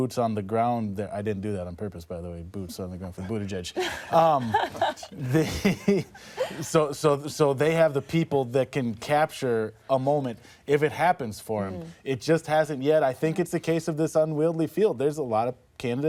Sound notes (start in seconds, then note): 5.5 laughter